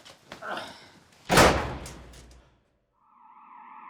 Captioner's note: door slams; sirens